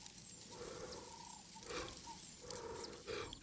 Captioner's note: lion panting